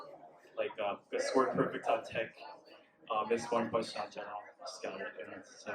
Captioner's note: mumbles nervously